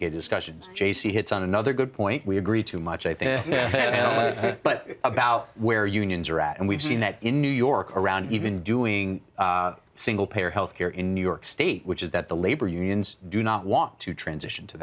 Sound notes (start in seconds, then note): 3.2 laughter